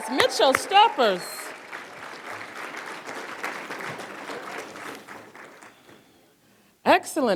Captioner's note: applause